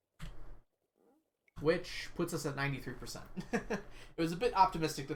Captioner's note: laughs